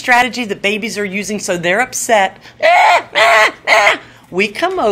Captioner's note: cries